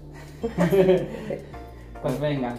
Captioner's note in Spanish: Risa nerviosa